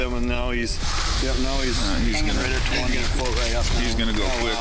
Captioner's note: crew chattering